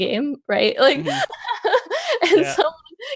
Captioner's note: laughs